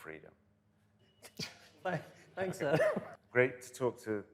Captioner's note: laughter